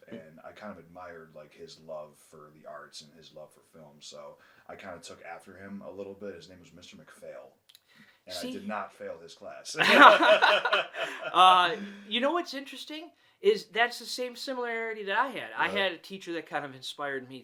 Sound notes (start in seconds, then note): 9.8 both laughing